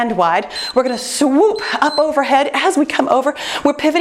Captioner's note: timer beeps